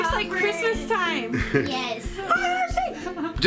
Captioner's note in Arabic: يضحك